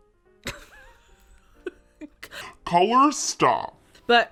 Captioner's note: laughs